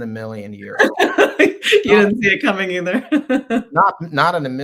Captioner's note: chuckles